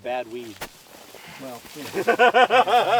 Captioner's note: laughter